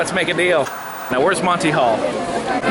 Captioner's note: white noise scratching